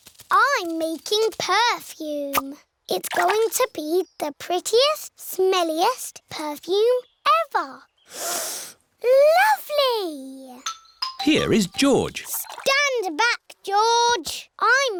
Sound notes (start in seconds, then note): 8.1 sniffs